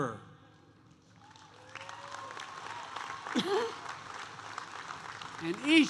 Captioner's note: applause